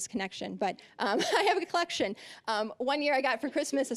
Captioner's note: chuckling